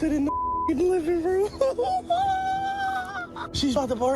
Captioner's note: laughs nervously